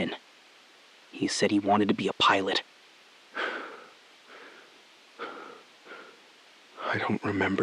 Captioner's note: SILENCE — 5 sec